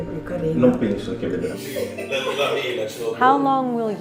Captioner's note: speaking in foreign language